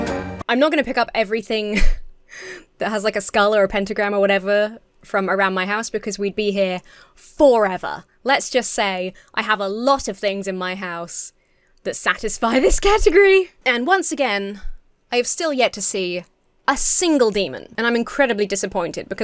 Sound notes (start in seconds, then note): 1.6 laughs